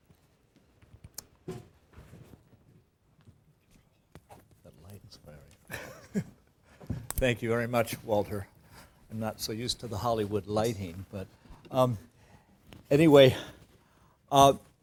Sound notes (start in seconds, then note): 5.7 laugh